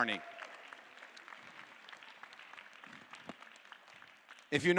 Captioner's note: audience applause